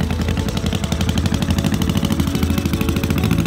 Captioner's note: engine turns over